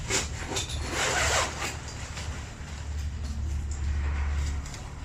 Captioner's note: zipper